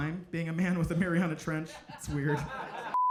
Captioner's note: audience laughing